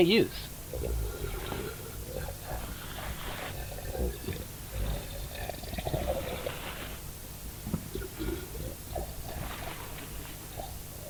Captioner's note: gurgling